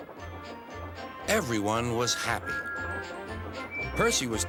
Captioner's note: whistles